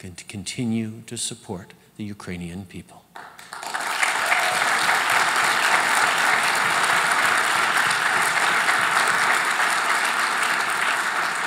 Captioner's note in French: Applaudissements